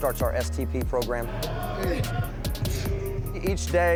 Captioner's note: breathing and grunting